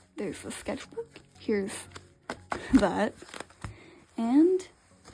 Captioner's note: laughs